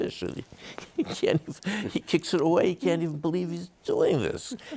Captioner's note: chuckles